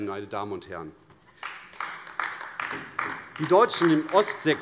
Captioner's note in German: Beifall AfD